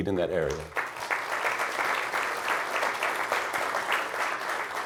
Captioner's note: crowd applauds